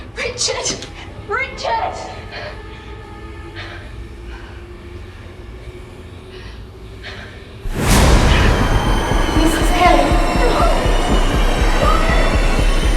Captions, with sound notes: Richard? Richard? [Strong Wind] - [Ghostly Voice] Mrs Kelly? - Florence? FLORENCE!